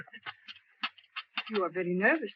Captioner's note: cup rattles